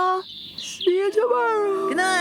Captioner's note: yawning